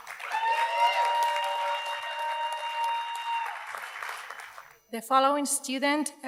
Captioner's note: audience cheers and applauds